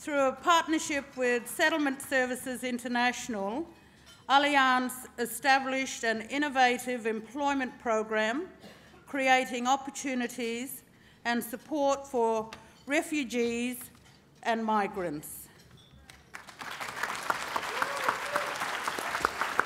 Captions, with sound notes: Through a partnership with Settlement Services International, Allianz established an innovative employment program, creating opportunities and support for refugees and migrants. (applause)